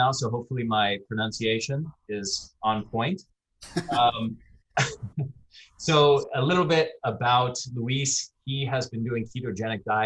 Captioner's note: chuckles